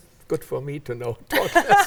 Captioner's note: laughs